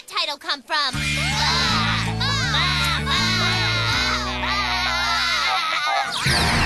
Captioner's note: all baaing